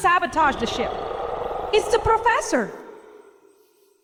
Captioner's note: dragon sounds